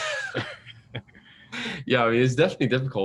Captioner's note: laughter